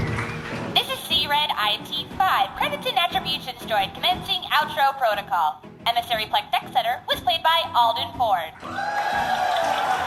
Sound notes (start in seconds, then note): 0.0 audience applauds after every credit; 0.0 audience applause, cheering; 0.6 end credits music